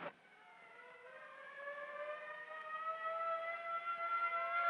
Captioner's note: siren wailing